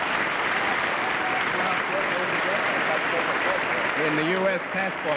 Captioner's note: applause